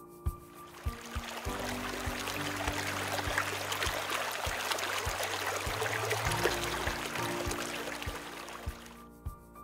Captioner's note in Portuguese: som de água correndo